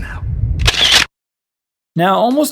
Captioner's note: camera shutter